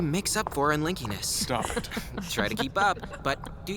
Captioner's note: laughing